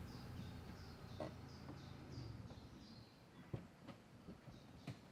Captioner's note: bird song